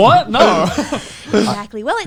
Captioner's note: laughs